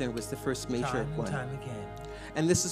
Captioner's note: voiceover